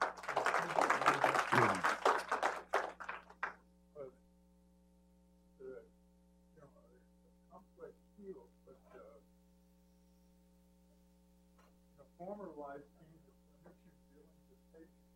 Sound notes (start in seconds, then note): 3.3 applause